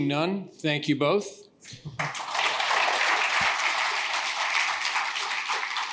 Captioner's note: applause